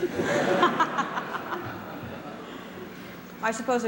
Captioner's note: laughter